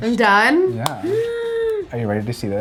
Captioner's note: squeals